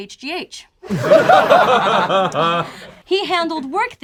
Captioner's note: group laughs